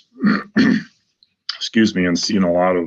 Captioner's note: clears throat